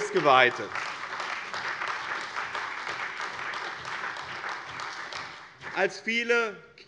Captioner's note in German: Beifall bei dem BÜNDNIS 90/DIE GRÜNEN und der CDU